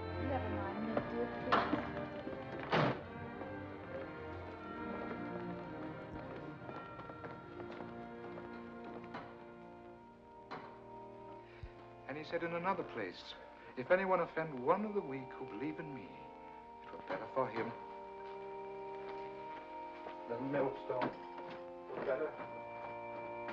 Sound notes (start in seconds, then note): 2.7 car door closes; 4.5 sentimental muisc; 18.5 knock on door